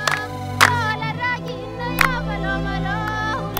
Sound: clapping and chanting

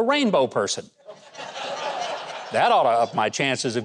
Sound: crowd laughing

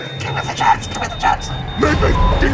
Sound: none

